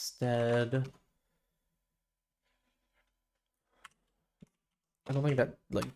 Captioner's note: silence